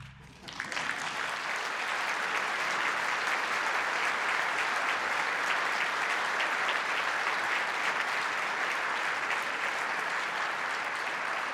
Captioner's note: audience applause